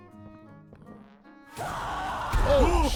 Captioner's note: screaming